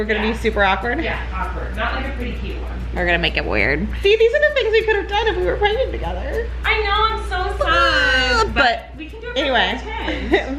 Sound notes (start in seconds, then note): 7.6 fake crying